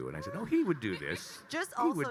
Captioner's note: attendees laughing